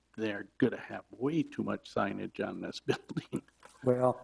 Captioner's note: giggles